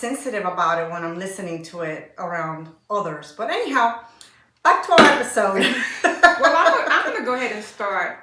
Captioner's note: laughter